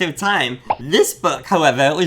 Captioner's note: pops